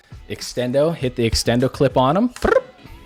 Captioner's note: weird sound effect